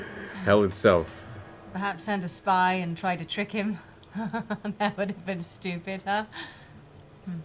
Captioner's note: chuckles